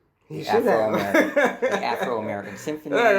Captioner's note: chuckles